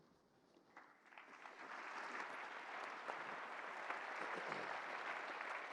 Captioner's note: applause